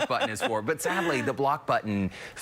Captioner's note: laughter